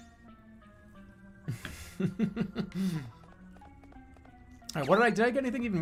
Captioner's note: laughing